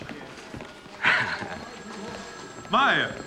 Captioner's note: chuckles